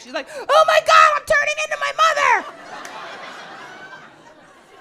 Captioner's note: audience laughs